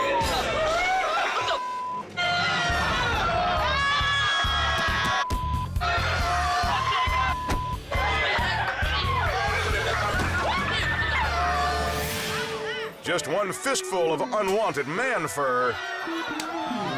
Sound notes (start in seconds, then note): 2.0 crowd moans; 8.6 crowd yelling